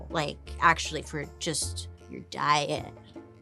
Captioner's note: none